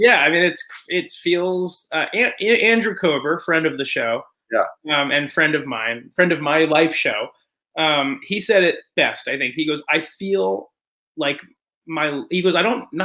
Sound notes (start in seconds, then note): none